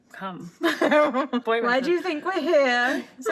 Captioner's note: both laugh